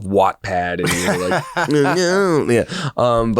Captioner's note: laughs